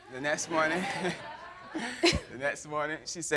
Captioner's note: laughter